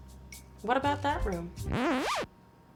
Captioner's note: record scratch